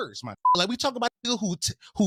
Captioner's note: beep